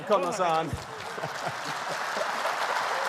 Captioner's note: applause